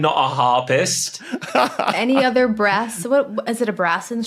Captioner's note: laughs